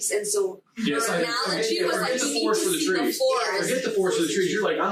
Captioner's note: group chattering